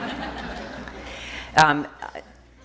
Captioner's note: laughter